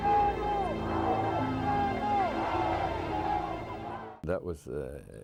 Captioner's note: chanting